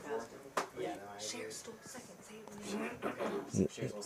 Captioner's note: indistinct chatter